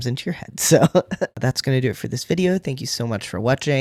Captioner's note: laugh